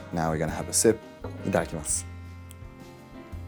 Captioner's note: speaking Japanese; gentle elegant music